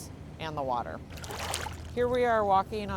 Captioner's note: gentle wave